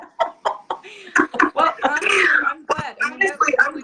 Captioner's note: laughing